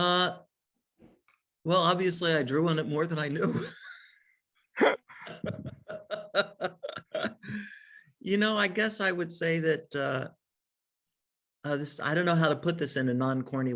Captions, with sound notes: - Well, obviously I drew on it more than I knew (laughs). I guess I would say that this, I don't know how to put this in a non corny way